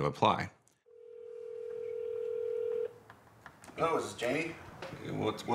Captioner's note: phone calling out